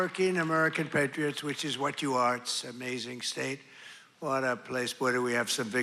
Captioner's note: cheers and applause